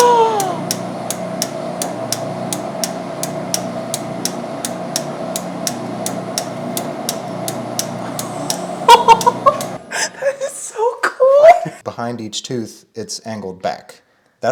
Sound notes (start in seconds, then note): 10.3 machine whirring; 10.3 metal clicking; 10.4 wife laughing